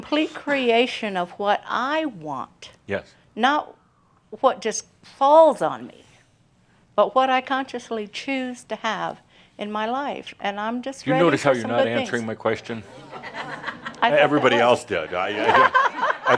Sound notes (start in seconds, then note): 15.2 laughter